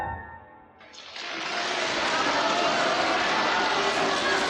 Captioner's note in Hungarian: vastaps, ováció, éljenzés